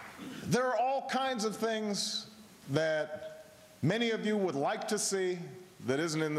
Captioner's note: applause